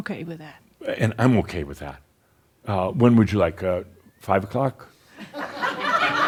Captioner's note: laughter